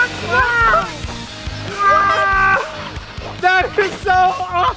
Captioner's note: screaming excitedly